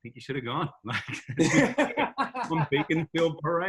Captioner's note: laughs